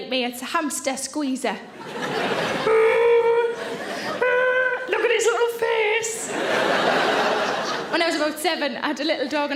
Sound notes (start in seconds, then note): 2.7 Sarah grunts; 6.8 audience laughs